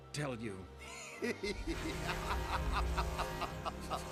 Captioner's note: evil laughter